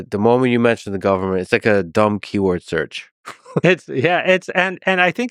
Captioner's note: chuckles